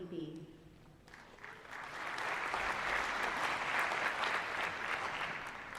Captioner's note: applause